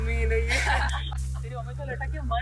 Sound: friends laughing

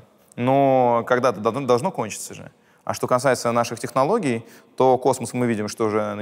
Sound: none

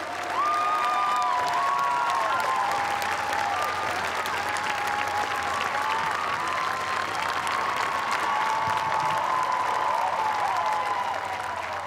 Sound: cheers and applause

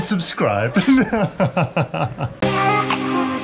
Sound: laughter; relaxing rhythmic music

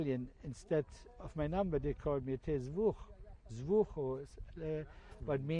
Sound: non-english

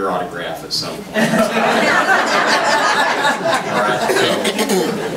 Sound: group laughs

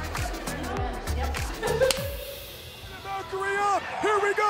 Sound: laughs

